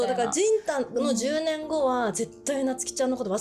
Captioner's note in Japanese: none